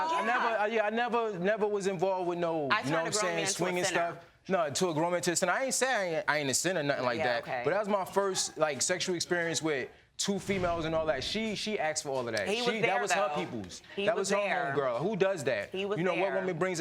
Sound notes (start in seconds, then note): none